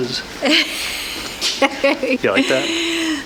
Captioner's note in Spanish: riendo